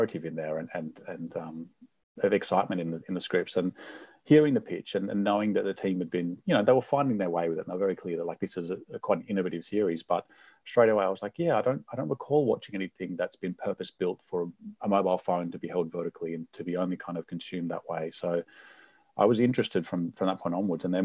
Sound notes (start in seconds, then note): none